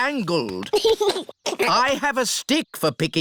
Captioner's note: giggles